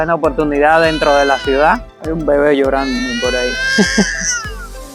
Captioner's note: there is a baby crying over there